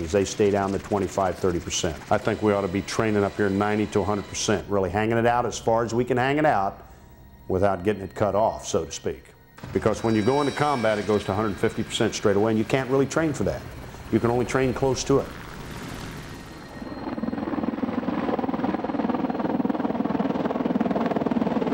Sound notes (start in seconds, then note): 16.1 helicopter blades humming